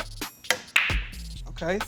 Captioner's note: pool balls colliding and knocking